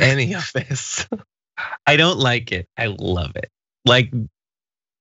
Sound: laugh

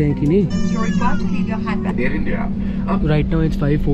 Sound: inflight announcement

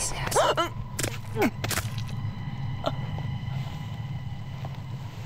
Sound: haunted whispers echoing; squishing; grunting

